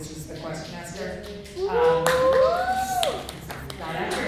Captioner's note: snaps, whooing, clapping from audience